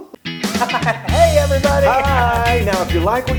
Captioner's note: laugh